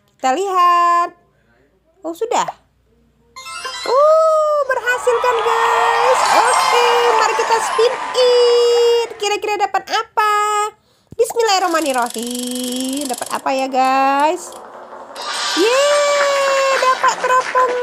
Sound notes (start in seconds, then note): 13.8 applause